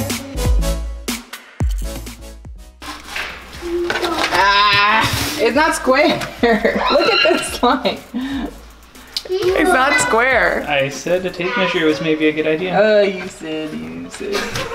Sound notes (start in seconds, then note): 6.2 laughs; 14.2 laughing